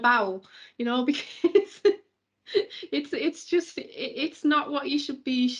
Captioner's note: chuckles